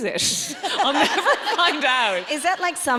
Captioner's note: audience laughs